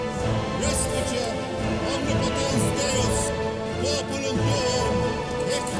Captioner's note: blessing in foreign language